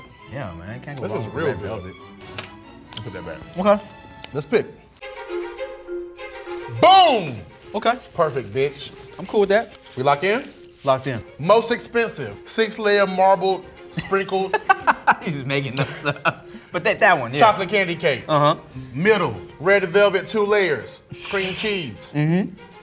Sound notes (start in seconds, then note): 4.2 upbeat music; 14.0 laughs